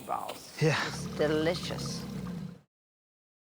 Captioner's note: growling